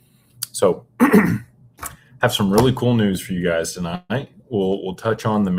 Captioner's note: clears throat